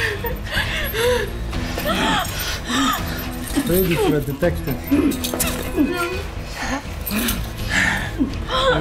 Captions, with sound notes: Pretty for a detective. [spitting]